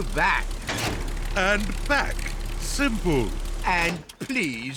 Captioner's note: lever clunks